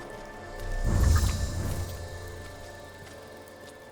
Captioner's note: footsteps echoing; wings beating